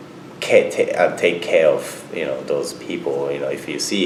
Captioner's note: none